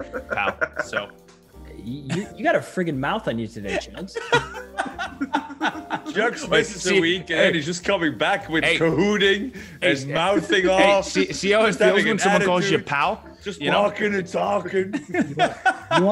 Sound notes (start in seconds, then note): 4.1 laugh